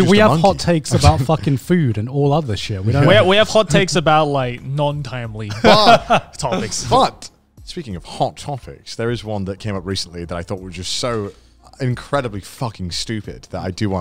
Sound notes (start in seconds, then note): 5.4 laughing